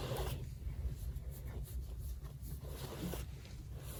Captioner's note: fingers audibly scritch Ollie's head